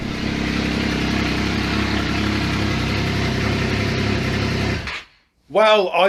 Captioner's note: engine Running